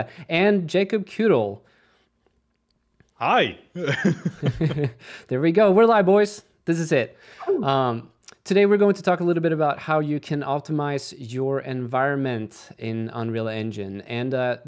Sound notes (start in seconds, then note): 3.8 laughter